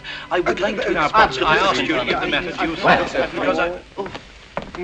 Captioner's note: all murmuring